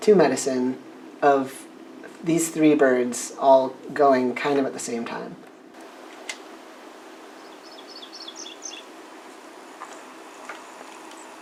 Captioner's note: sequence of different bird songs